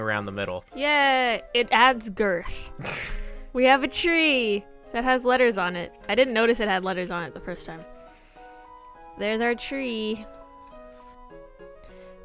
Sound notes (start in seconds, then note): 2.5 snorts